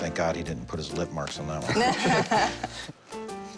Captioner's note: laughter